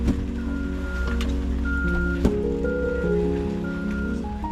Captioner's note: car beeping